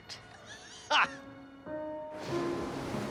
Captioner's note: laughing